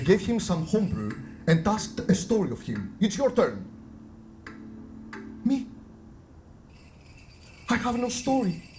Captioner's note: none